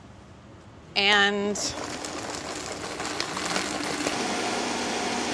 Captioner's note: blender whirring